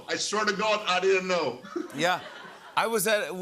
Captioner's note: laughter